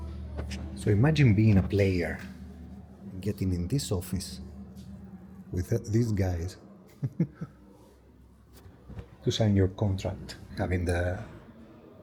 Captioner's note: laughs